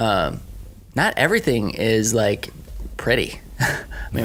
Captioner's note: laughing